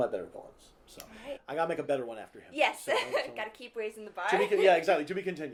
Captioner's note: laughter